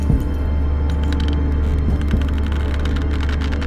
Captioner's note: footsteps, floor creaking